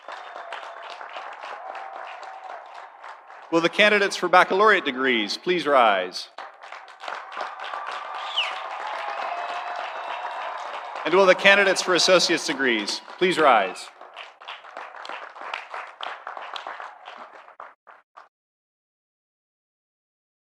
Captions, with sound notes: (audience cheering) (audience applauding) Will the candidates for baccalaureate degrees please rise? (audience cheering) (audience applauding) And will the candidates for associate degrees please rise? (audience cheering) (audience applauding)